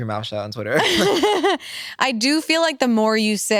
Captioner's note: laugh